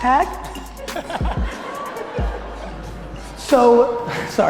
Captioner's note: audience laughter